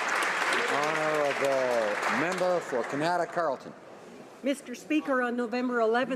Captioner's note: applause